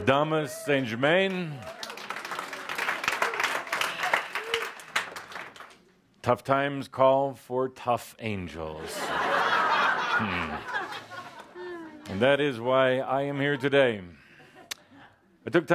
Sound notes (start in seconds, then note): 0.8 audience applause; 8.8 laughter